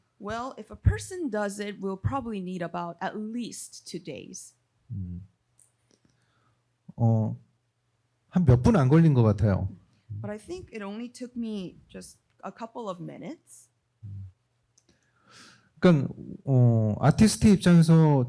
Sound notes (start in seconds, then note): 6.5 speaking korean; 15.8 speaking korean